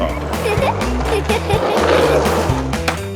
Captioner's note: giggles